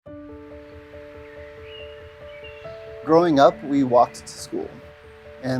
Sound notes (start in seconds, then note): 0.0 piano music; 0.2 birds chirping